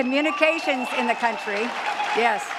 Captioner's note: cheers and claps